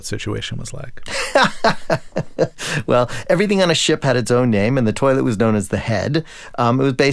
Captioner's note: laughter